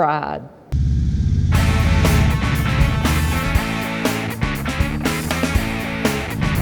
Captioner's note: engines rumbling; upbeat music